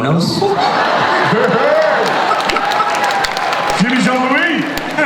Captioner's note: audience and panelists laugh